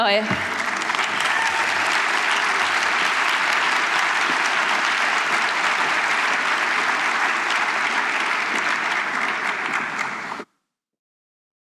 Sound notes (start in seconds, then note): 2.9 applause